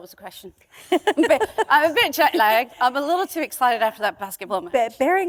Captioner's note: laughter